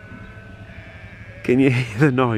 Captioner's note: bleating